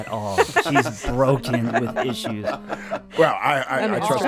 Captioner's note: group laughs